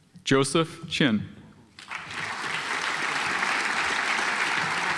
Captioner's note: audience applauds